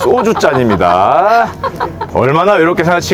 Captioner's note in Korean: 웃음